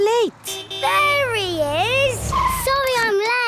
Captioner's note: honking